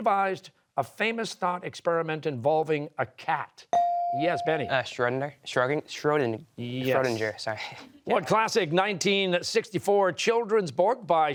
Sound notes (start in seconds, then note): 4.9 stammering